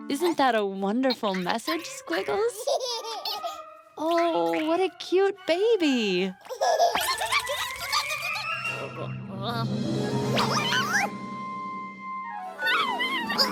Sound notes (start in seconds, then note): 2.9 baby laughing; 6.4 baby laughing; 7.8 squeaking